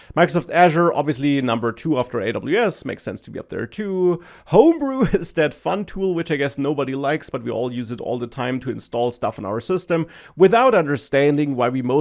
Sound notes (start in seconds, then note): 4.5 laughs